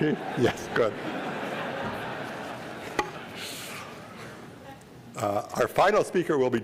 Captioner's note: laughter